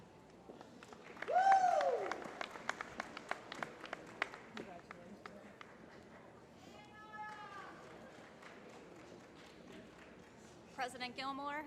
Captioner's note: applause